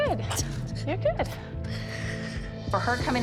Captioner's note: cries